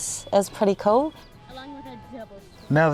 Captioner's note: chatter